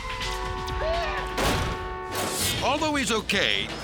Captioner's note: horns honking; jaywalker thuds